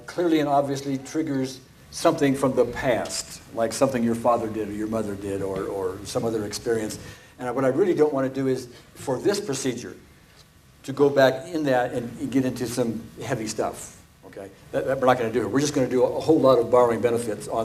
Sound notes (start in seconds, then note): none